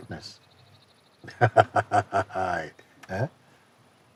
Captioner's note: Mooji laughs